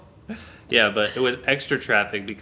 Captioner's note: laughing